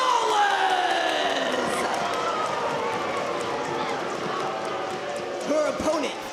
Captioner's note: audience booing